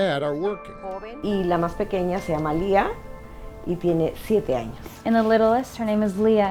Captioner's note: speaking in Spanish